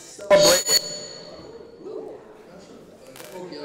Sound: mic reverberates

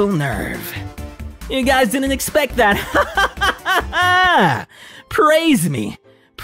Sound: laughter

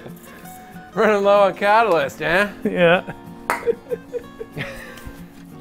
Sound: laughs; laughs

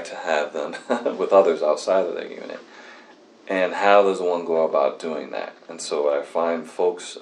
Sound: laughs

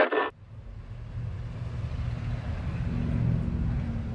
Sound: cars rushing

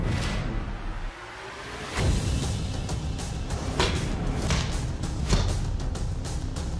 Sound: impact sounds

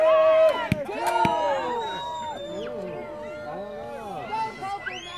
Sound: crowd murmuring

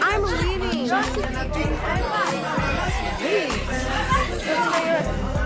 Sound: people chattering

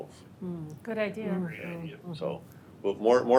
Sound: board members agreeing

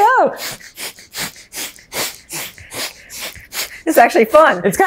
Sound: breaths fast

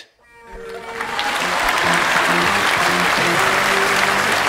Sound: audience applauds; upbeat music

